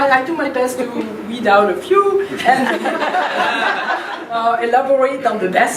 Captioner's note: laughing